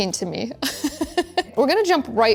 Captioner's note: laughs